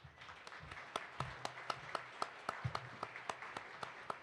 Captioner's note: participants applauds